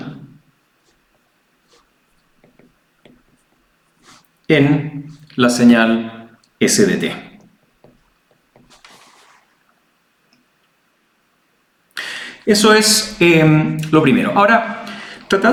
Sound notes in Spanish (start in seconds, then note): 3.5 resoplido